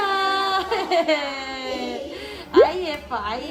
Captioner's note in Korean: 웃음